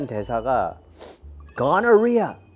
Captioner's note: sniffle